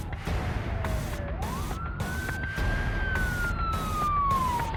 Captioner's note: police ice siren blarblar